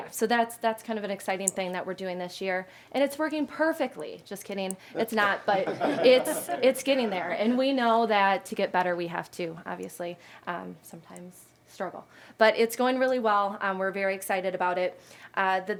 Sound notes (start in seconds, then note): 4.9 some Board members laughing